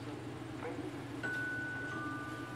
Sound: ring bell

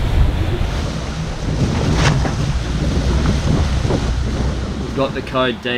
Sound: strong wind blows; waves crash

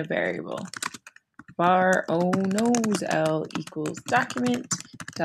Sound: typing

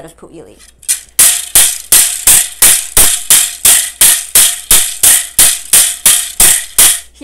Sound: bamboo sound

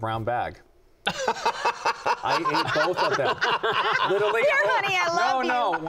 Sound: laughter

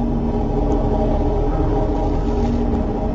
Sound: none

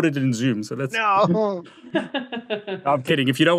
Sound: laughs

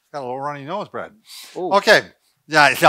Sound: sniffs

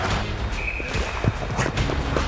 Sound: whistle

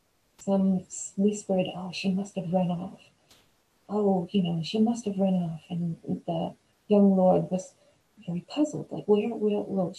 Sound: none

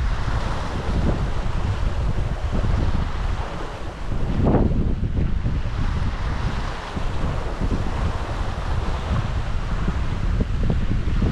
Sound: sound of water rushing past

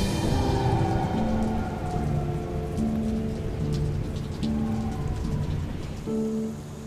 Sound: rain

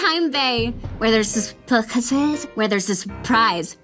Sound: stammering

